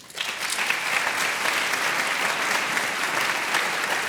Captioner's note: audience appluading